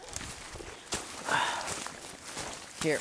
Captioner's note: cameraman exhales loudly into camera microphone